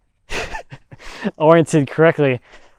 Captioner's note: chuckling